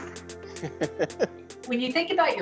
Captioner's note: laughing